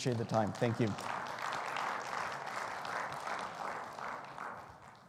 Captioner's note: audience applauding